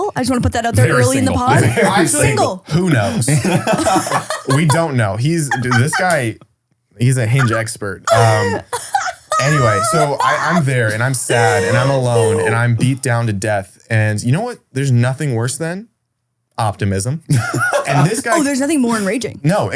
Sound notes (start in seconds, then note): 2.7 group laughing; 8.0 laughs; 17.3 laughs